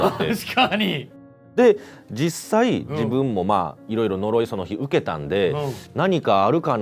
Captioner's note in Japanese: 笑い